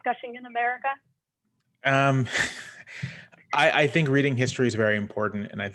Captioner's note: laughter